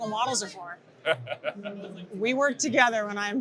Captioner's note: laughs